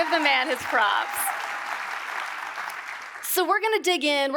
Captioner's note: audience applauds